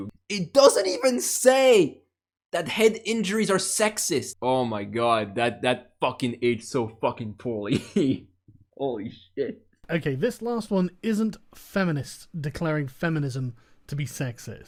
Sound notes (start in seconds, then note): 7.6 laughter; 7.7 laughing